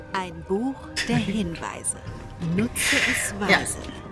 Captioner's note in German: Lachen